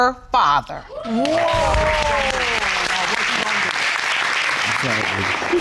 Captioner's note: cheering and applauding